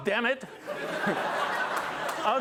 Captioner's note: laughter; light applause